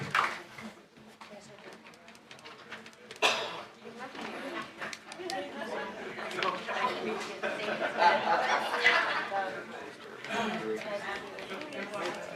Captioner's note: applause